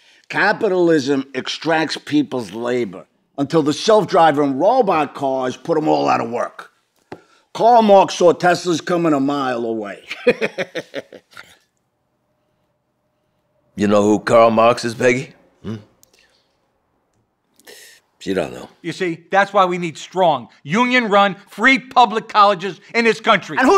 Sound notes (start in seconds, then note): 10.1 laughing